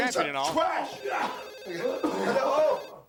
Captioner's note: phone ringing